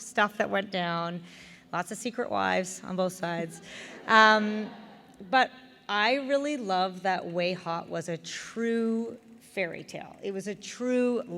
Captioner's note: laughter